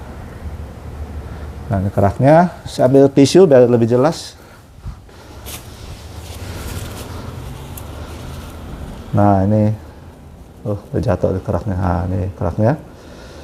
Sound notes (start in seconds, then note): 4.8 tissue noise